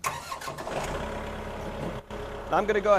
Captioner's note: engine starting